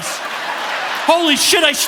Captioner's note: audience laughing